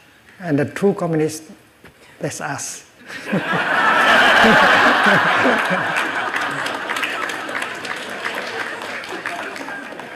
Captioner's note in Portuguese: risos, aplausos